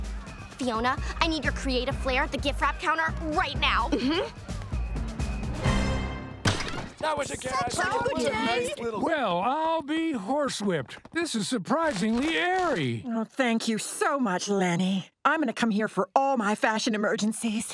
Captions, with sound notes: Fiona, I need your creative flair at the gift wrap counter right now. Mm-hmm. [overlapping chatter] Well, I'll be horsewhipped. This is surprisingly airy. Thank you so much, Leni. I'm going to come here for all my fashion emergencies.